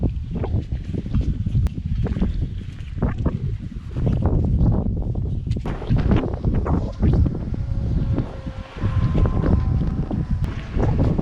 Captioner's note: wind